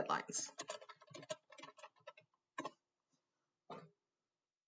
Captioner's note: keyboard clacking